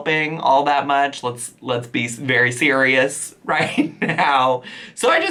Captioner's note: chuckling